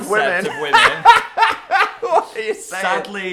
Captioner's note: both laughing